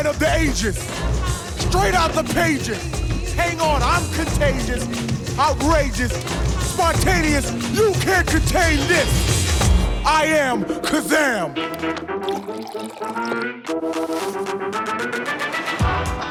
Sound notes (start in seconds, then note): 11.2 boom